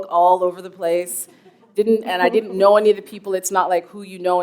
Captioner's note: chuckle